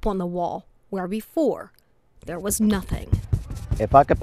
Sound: brushing sound

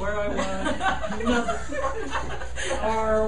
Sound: laughing

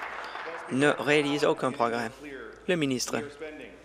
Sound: applause

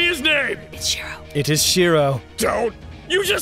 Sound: whispers

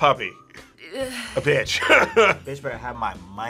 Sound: laughs

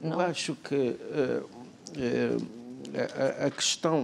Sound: speaking portuguese

